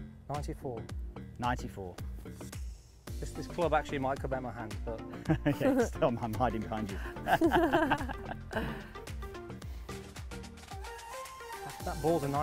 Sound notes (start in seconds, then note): 7.0 laughter; 8.8 upbeat music